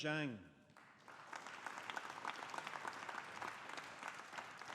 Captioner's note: audience applauding